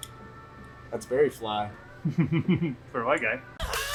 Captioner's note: laughs